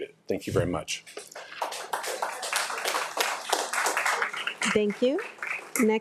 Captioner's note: attendees applauding